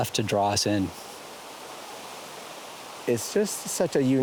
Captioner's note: flowing water